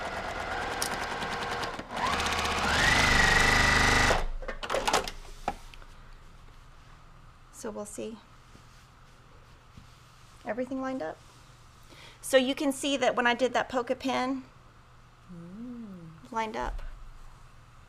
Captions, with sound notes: (sewing machine races) So we'll see everything lined up. So you can see that when I did that polka pen. - Hmm. - Lined up,